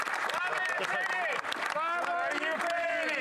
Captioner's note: cheering and Applause; applause